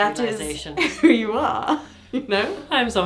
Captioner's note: laughs